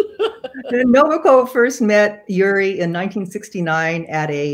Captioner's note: chuckles